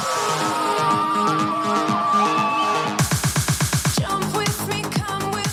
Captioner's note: upbeat music; students cheering